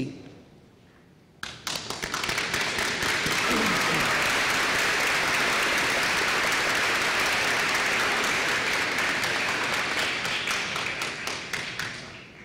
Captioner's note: applause